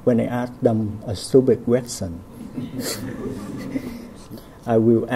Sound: laughs

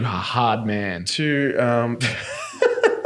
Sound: laughing

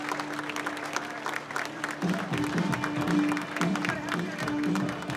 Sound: applause

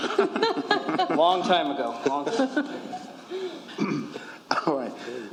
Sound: laughter

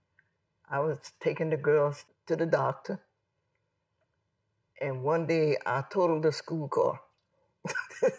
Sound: laughs

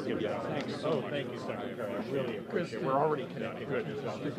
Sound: people talking

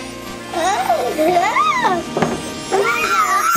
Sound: screams

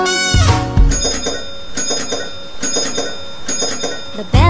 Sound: bell ringing

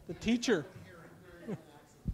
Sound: chuckles

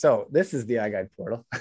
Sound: chuckles

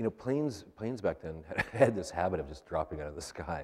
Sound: laughs

